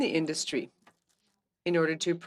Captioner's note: speaking French